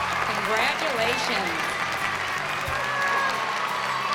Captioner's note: cheers and applause; bright music playing